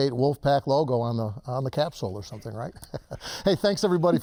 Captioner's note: laughs